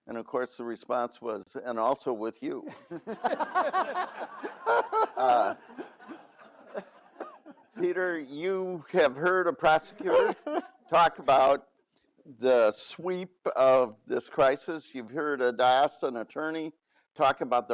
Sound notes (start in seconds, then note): 2.8 all laugh